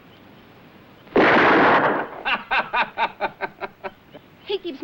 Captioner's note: gunshot